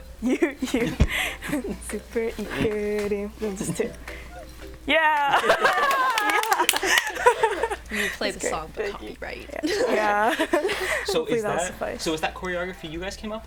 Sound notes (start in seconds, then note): 5.1 clapping